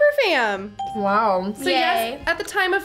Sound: bell rings

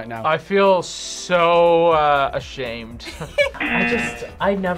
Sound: laughs

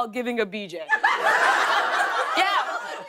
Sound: laughter

